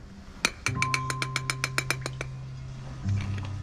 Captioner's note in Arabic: تصفيق معدني